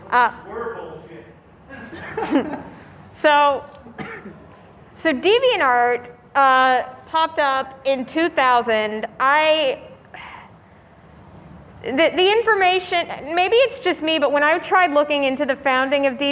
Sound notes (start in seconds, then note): 10.2 sigh